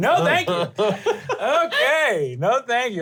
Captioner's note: laughs